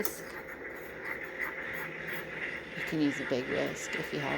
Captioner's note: whisk sounds